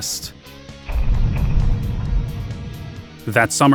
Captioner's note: thumping